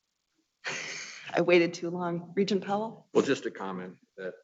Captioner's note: chuckles